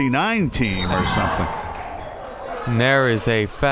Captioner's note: whistle